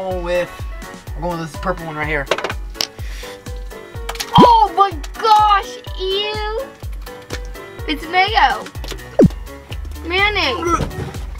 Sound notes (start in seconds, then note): 2.2 button clacking; 4.0 mayonnaise plopping